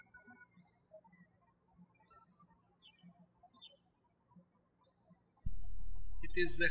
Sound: birds chirping

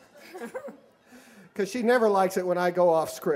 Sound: laughter

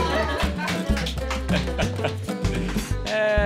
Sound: laughs

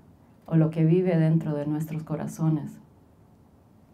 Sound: speaking Spanish

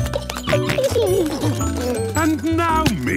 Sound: giggling, snorting

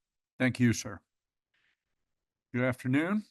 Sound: pause

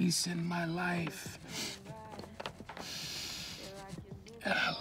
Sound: sniffs

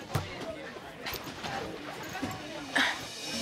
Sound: bustling

